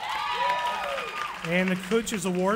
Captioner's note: cheering